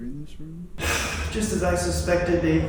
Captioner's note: sigh